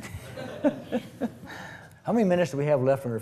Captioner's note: laughs